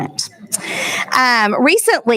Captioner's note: laughing